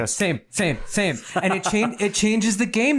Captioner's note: laughs